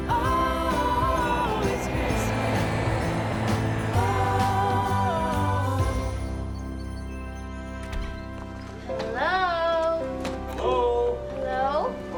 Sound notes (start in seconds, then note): 6.5 birds chirping